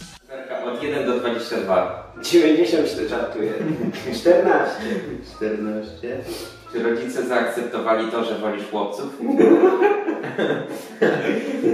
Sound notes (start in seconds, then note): 9.2 laugh